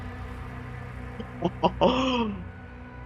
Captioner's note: giddy laughter